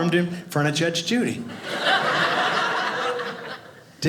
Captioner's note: audience laughing